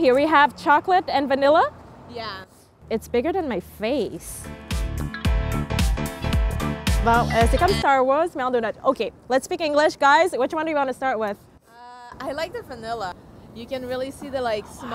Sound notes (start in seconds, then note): 4.2 upbeat music; 7.3 speaks in foreign language